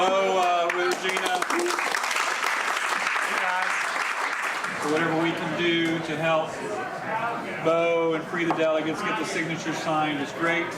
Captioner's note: applause